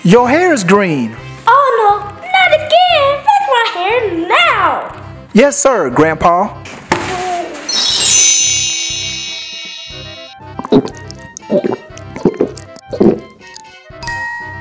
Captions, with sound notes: - Your hair is green. - Oh no, not again. Fix my hair now. - Yes sir, Grandpa. (chimes) (gulping)